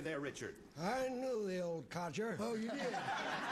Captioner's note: elderly voice